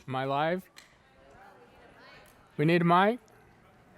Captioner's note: speaking faintly